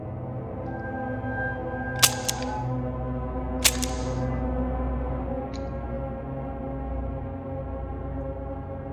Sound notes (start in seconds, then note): 1.4 gun clicking